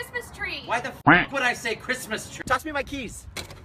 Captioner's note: quack